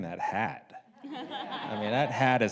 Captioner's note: audience laughs